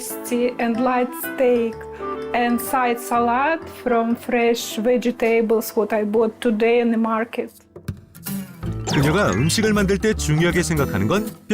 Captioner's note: voiceover